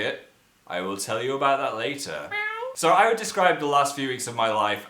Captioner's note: meow